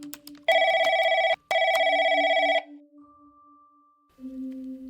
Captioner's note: ring... ring